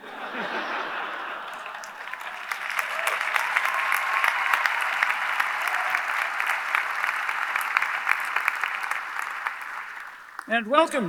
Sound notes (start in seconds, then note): 0.1 audience laughs; 2.0 audience applauding; 2.0 audience cheering